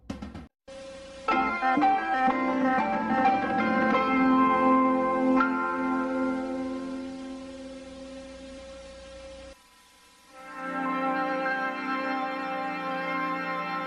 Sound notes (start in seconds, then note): 0.7 retro music plays; 8.3 TV static; 10.3 80s synthesizer music playing